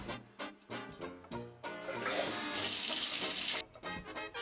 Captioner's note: shower Running